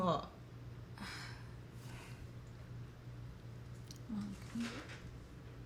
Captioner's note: Erica sighs